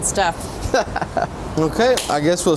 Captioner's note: chuckles